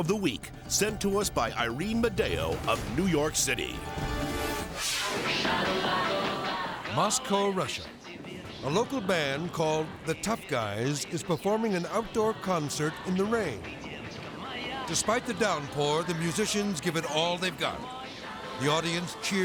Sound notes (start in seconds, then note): 3.7 tense music; 4.4 graphics whooshing; 13.3 singer sings in foreign language; 17.8 singer sings in foreign language